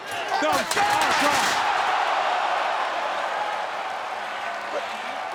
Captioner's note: crowd gasping